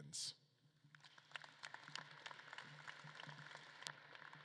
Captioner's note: audience claps